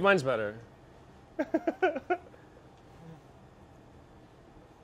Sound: laughs

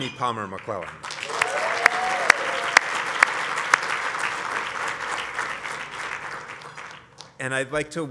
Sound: applause

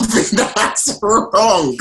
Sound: laughing

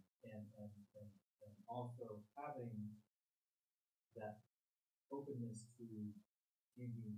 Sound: murmurs

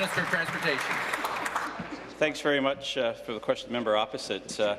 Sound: applause

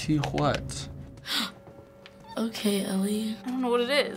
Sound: gasps

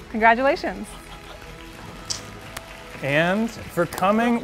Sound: audience applauding

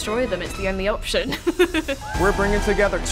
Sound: giggling

